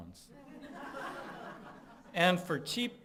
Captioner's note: laughing